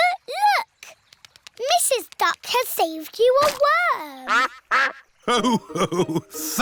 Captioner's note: quacks